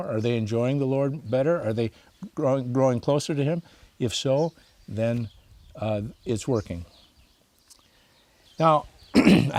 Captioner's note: clears throat